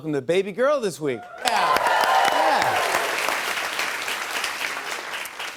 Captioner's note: cheers and applause